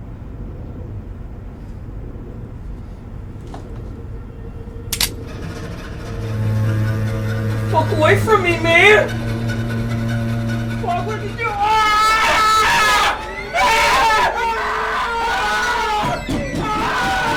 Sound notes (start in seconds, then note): 5.1 knife clicking; 10.5 Tom screaming; 15.5 Bannon screaming